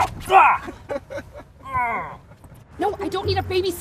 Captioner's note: laughing; pained groaning